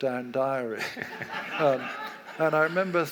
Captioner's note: audience laughs